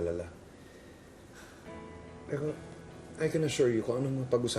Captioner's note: Yna sighs